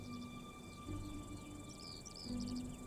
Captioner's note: bird voices